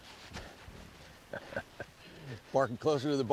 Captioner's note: solomon pants, casey laughs